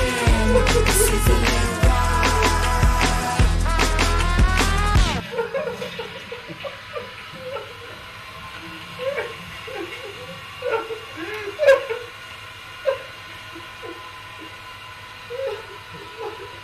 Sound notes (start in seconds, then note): 5.2 toilet flushes; 7.8 nonsensical sobbing